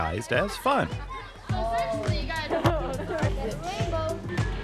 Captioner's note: children talking indistinctly; upbeat music